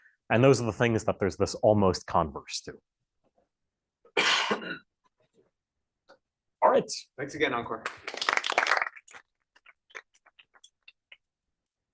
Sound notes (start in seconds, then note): 7.8 applause